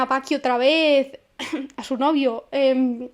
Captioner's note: cough cough